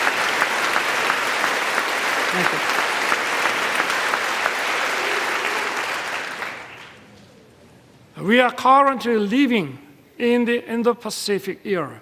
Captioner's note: applause